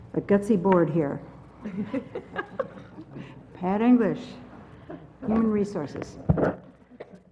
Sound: laugh

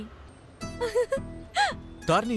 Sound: Tarini giggles

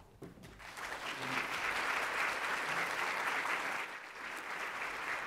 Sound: audience applauds

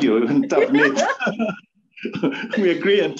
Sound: both laugh

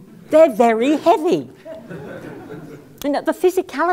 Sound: laugh

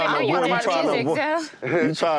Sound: laughing

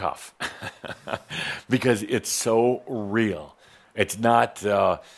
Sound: Adamus chuckles

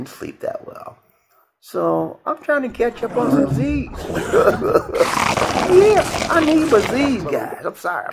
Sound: loud snoring sound

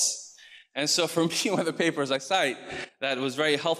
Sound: chuckles

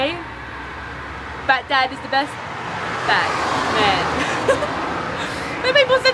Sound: laughs

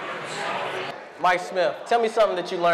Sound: loud collective chatter

